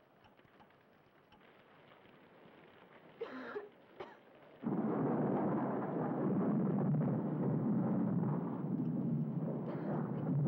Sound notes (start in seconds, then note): 4.7 thunder roaring